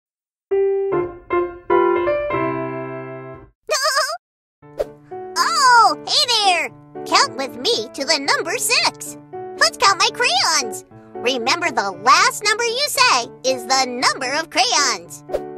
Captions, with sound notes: (upbeat piano music) (Peck laughing) - Oh, hey there. Count with me to the number six. Let's count my crayons. Remember, the last number you say is the number of crayons.